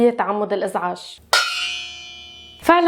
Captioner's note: pot noises